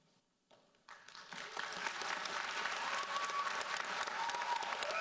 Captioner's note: audience applauds